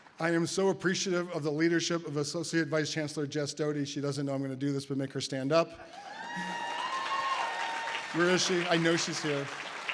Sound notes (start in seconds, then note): 6.0 audience applause